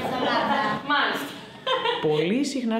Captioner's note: laughter